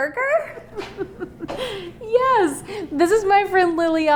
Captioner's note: laughs